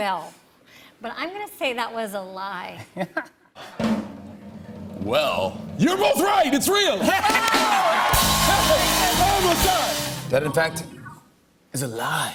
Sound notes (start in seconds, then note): 3.7 drum roll; 7.0 cheers and applause